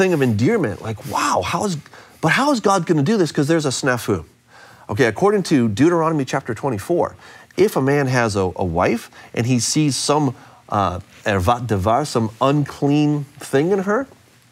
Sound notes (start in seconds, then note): 10.0 speaks in foreign language